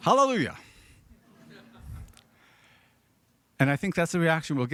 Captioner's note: audience laughing